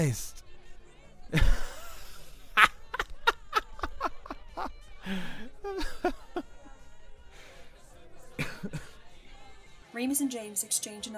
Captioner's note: Sirius continues laughing